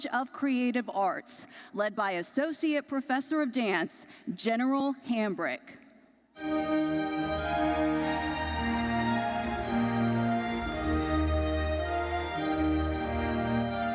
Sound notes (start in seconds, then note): 6.4 classical music; 6.8 audience applauds